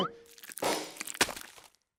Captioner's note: glass breaks